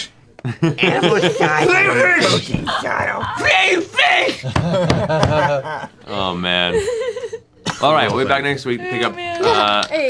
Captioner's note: normal voice